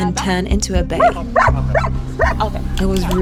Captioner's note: barks